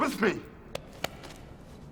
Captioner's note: hands clapping